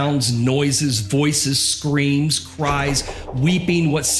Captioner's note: door bangs shut & echos